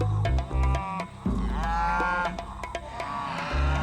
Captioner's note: mooing gets louder